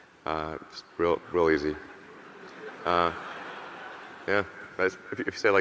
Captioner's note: audience laughing